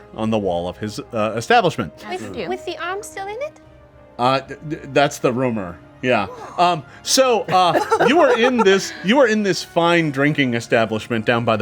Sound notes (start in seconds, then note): 7.4 group laughs